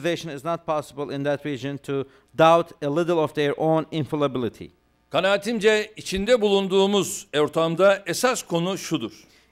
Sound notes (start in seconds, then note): 6.9 non-english speech